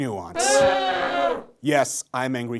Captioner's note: crowd boos